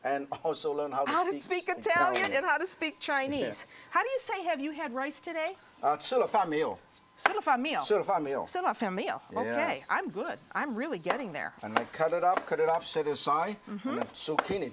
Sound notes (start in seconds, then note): 6.6 speaking Chinese